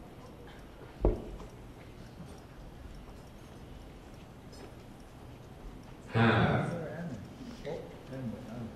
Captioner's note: computer voice